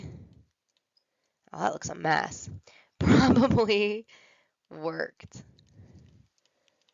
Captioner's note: laughter